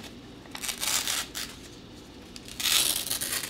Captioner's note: paper tearing